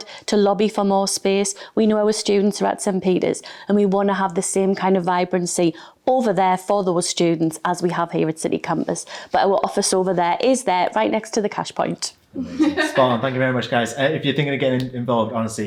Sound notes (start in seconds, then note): 12.3 irish laughing